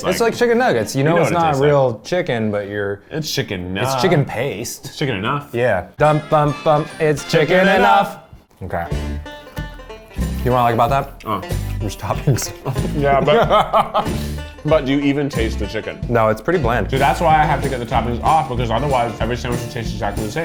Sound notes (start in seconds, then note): 9.1 upbeat country music; 12.1 laughs